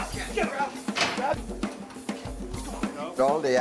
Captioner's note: guard shouts in surprise